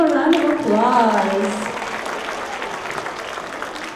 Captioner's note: applause